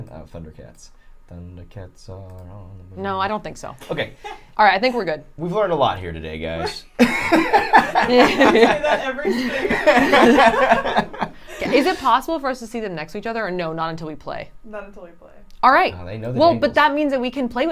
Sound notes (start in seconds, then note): 6.6 laughing